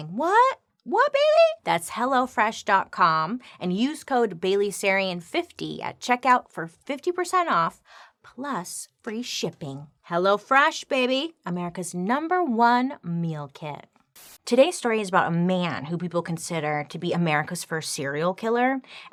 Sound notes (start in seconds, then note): 14.1 static crackling